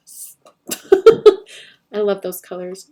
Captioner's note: laughs